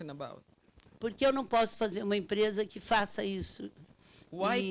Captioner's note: speaking Portuguese